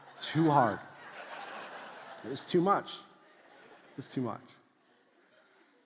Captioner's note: congregation laughs